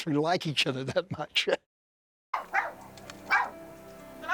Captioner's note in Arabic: نباح الكلب